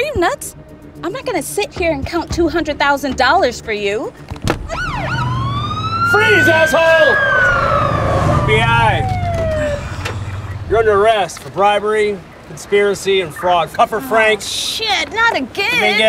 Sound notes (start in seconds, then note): 4.6 siren whooping; 7.3 tires squealing